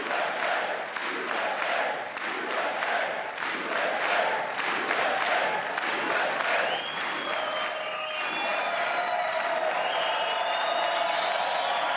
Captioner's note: chanting usa; cheers and applause